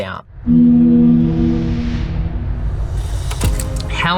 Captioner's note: ship honks